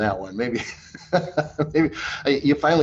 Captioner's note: laughing